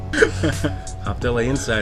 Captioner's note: laughing